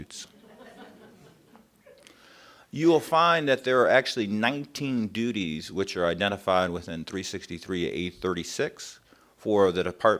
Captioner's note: laughter